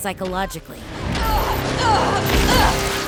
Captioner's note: grunting